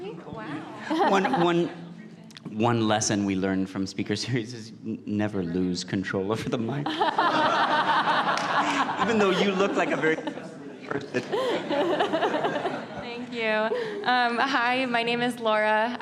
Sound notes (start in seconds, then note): 6.8 laughter